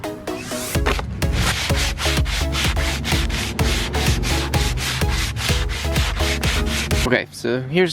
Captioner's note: sanding